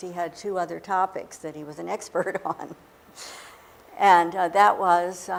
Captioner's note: laughing